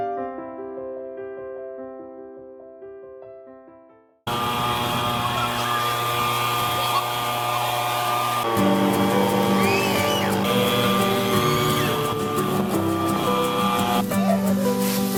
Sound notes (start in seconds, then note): 4.5 leaf blower whirring; 8.4 happy music